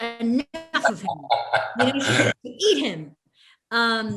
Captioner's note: laughs